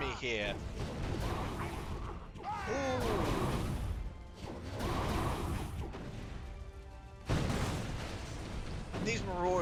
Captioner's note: groan